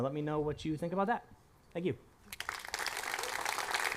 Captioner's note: applause